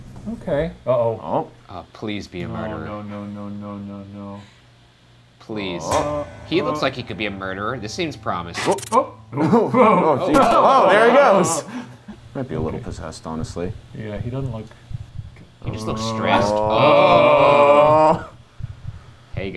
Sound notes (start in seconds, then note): 9.3 static buzzing; 16.7 group gasping